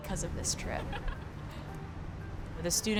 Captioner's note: laughs